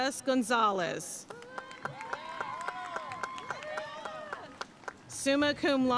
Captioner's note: audience cheering and applauding